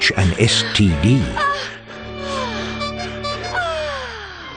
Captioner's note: woman moaning and clown honk